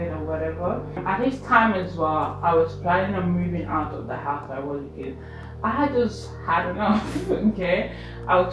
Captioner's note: laughs